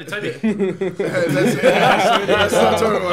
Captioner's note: laughing